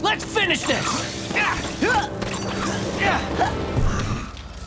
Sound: grunting

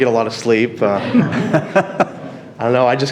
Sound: audience laughing

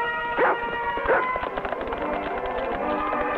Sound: dog barks

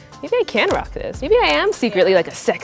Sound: camera shutter clicking

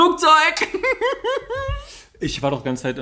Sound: laughs

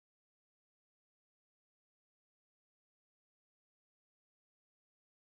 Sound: speaking Spanish

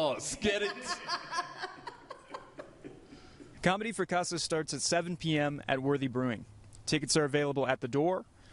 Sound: laughte

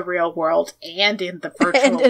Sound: laughs

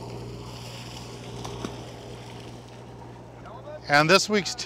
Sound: water splashing

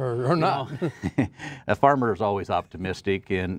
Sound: laughing

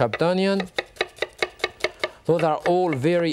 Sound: knife thumping

